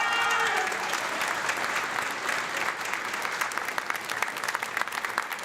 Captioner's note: audience clapping and cheering